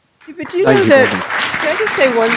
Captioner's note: audience applauding